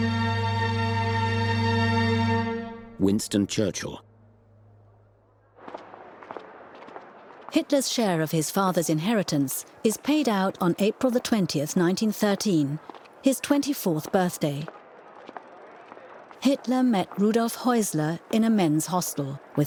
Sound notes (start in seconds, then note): 0.0 somber music; 6.7 steps clattering